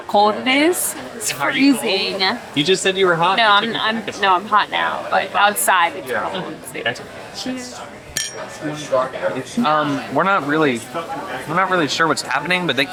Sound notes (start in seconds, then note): 8.1 glass clinks